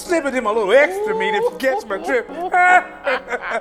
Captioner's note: laughter